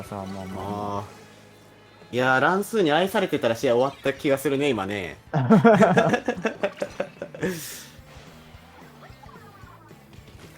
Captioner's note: laughs